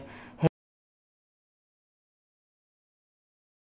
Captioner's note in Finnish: Ääni ei kuulu